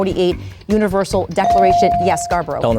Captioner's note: bell dings